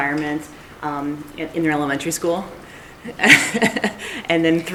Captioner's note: chuckles